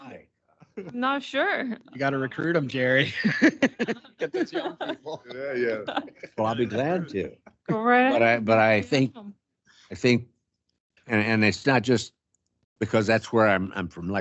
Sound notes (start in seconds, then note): 3.7 council laughing